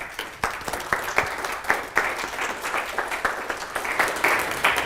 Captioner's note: applause